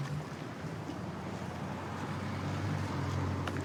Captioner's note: vehicles driving